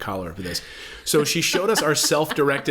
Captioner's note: laughs